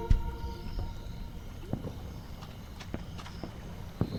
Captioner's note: sea waves crash